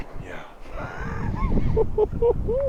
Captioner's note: laughing